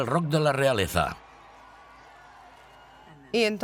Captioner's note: people cheering